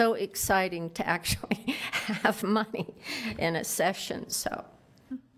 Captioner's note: laughs